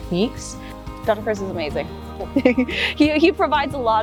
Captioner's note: giggles